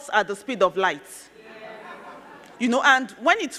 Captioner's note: crowd laughing